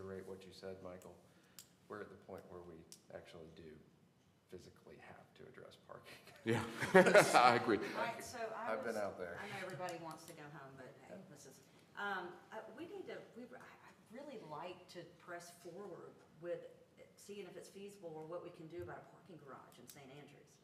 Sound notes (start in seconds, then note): 6.5 laughter